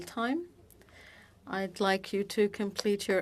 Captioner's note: speaking French